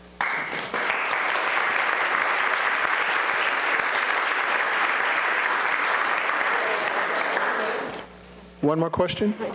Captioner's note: applause